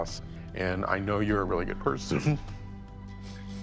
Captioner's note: sobs